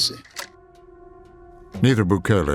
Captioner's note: camera shutter clicks